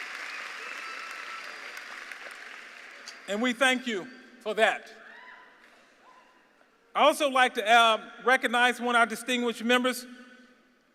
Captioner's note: cheers and applause